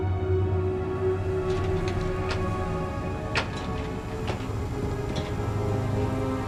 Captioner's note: door Opens